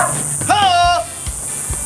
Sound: tribal call

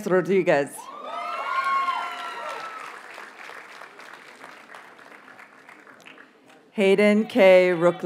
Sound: audience cheers and applauds

